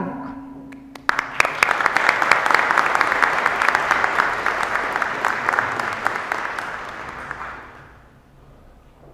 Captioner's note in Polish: oklaski